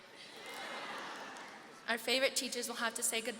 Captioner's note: seniors reacting